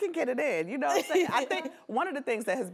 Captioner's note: laughs